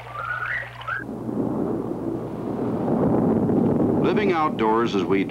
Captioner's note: thunderstorm sounds